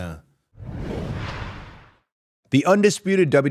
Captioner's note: graphic whooshing